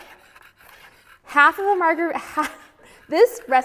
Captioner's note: laughs